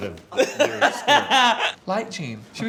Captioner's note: Tan laughs